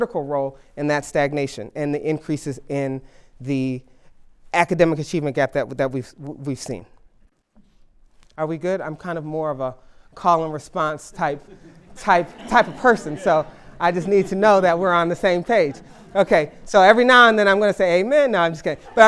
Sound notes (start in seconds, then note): 15.9 laughter